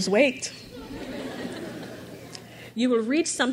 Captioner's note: crowd laughs